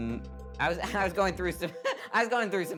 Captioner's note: laughing